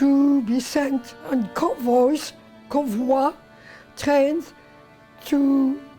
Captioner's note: speaks in French